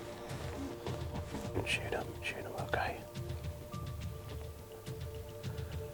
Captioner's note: whispering